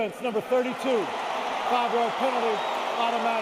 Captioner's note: cheering